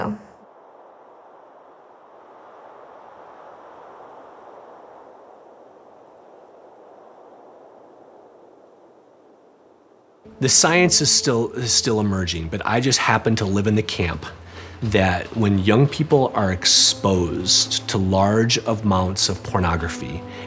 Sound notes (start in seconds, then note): 0.1 sound of Breeze